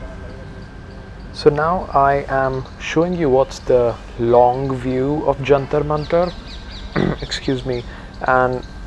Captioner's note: clears throat